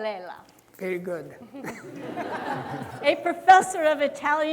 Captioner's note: audience laughing